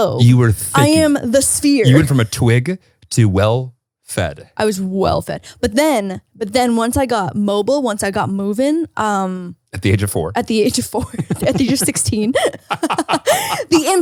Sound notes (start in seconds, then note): 10.9 chuckles; 12.7 both laughing